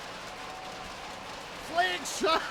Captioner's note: crowd clapping and cheering